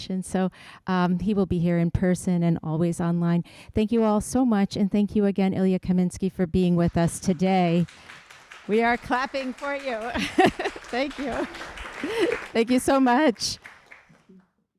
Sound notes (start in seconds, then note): 10.0 chuckles; 10.1 audience applauding